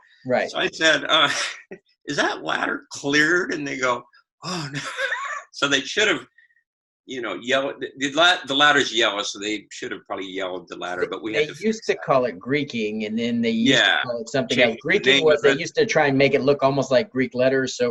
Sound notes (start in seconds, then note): 4.5 laughs